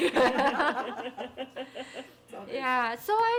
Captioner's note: people laughing